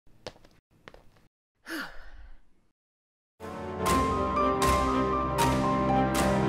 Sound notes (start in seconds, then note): 0.0 off-screen: Footsteps and a loud exhale; 3.4 music: Dramatic, epic